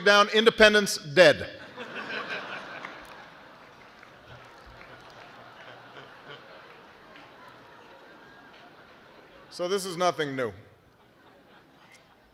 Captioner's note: laughter